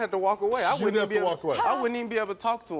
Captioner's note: laughs